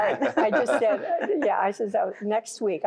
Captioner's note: laughter